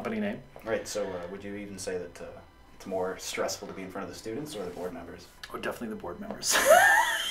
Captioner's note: laughs